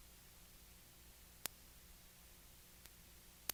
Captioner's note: clicking; clicking